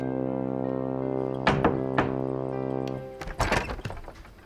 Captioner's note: Bray knocks